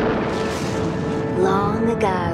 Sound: thunderclap

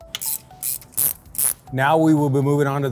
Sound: bright music continues; tool clicking

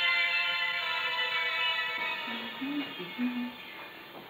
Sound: humming

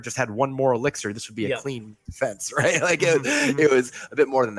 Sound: laughing

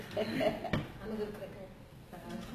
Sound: laughter

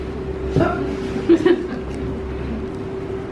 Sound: laughter

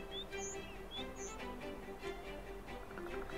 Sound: birds chirping

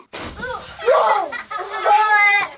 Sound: whooshing

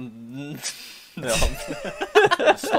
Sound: both laugh

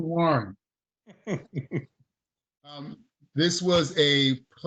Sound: chuckling

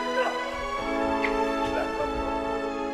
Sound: Rodolfo cries

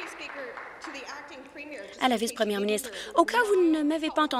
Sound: applause

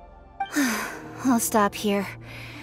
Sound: sigh

